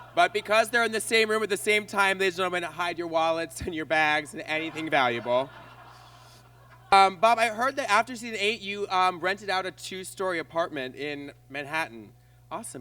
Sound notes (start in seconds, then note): 4.2 audience laughs